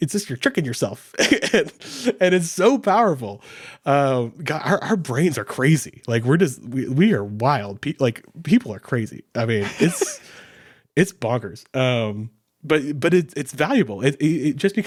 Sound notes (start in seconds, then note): 1.2 chuckles; 9.6 laughing